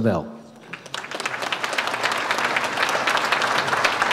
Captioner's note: audience applauds